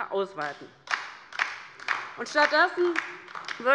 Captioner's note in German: Beifall bei der LINKEN